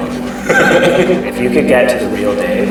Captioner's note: both men laugh